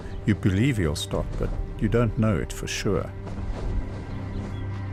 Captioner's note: animals calling